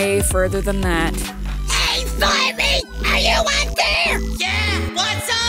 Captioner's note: yelling